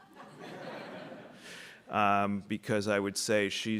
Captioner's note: audience laughing